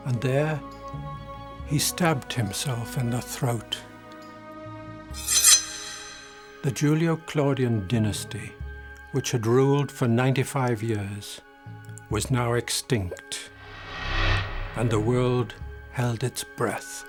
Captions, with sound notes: and there, he stabbed himself in the throat. (soft dramatic music) (sword ringing) The Julio-Claudian Dynasty which had ruled for 95 years was now extinct, and the world held its breath.